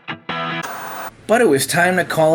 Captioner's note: upbeat rock guitar music; white noise scratching